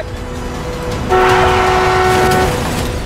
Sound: horn blaring

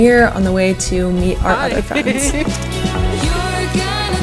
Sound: laughs

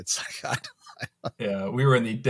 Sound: laughs

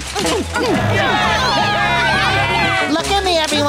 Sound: grunting; cheering

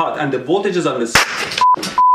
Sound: circuit pops

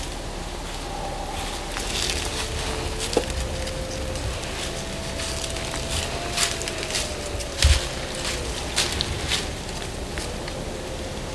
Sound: walking in leaves

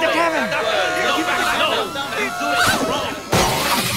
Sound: shouting

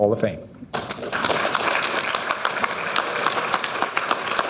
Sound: audience applauding

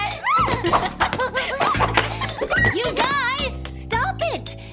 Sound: laughing

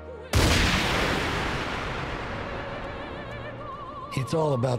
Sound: gunshot

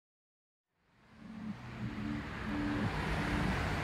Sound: rumble of traffic

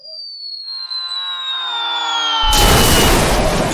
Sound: screaming intensifies

